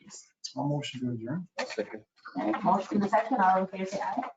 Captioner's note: murmuring